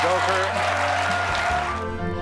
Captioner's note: cheering and applause